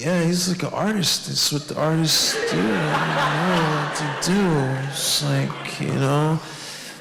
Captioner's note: audience laughs